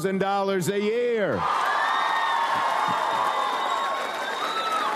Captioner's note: audience applauds